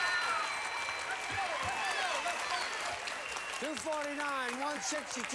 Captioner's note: audience applauding